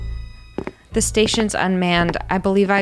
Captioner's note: footsteps